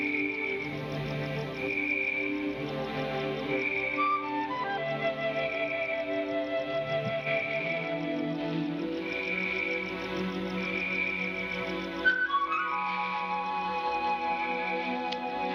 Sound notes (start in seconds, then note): 1.1 birds chirping